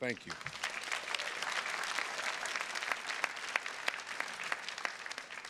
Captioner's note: attendees clapping